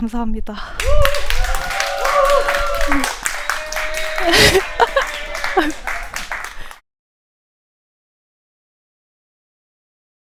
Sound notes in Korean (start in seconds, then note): 0.6 박수 소리